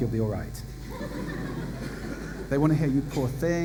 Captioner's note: laughter